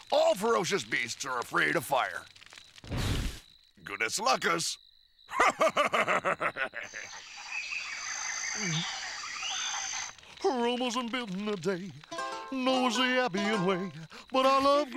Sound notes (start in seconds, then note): 5.3 maximus chuckling; 8.1 birds chirping